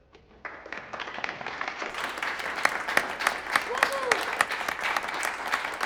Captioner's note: audience applauding